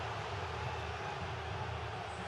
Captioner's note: crowd exclaims